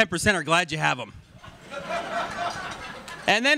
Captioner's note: laughter